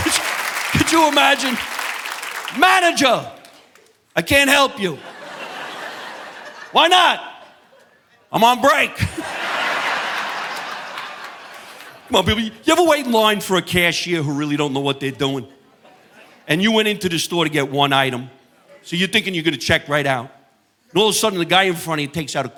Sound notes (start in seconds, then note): 0.2 chuckles; 4.8 audience laughing